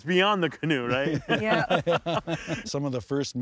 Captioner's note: everyone laughs